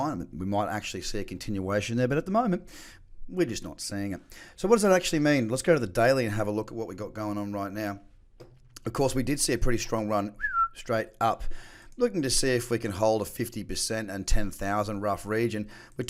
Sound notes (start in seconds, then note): 10.4 whistles